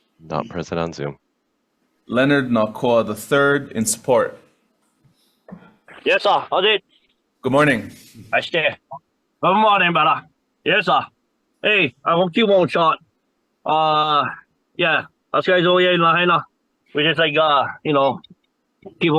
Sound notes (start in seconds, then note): 8.8 speaking in a foreign language